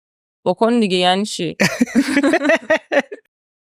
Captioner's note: laughs